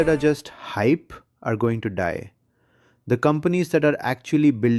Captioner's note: sarcastic